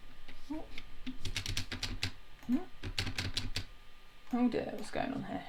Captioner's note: keyboard clicking